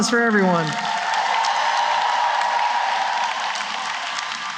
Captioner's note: applause